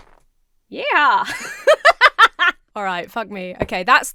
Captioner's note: laughs